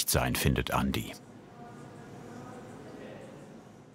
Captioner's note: quiet murmuring